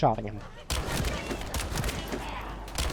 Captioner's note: gunshots